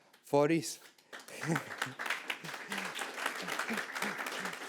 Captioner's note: audience clapping